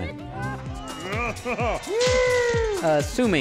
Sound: laughs, cheers

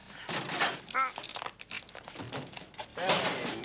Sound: crunch

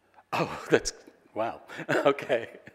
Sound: laughs

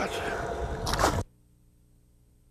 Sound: splash

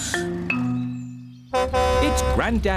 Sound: horn honks

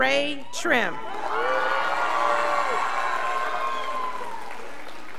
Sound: scholars applauding

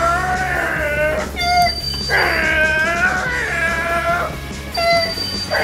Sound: vrooming noises

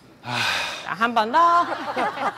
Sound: whew

